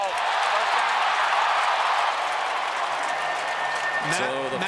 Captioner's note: cheering